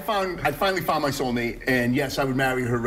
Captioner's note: laughter